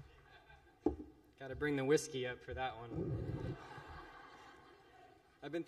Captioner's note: laughter